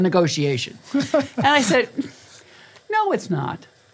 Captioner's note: laugh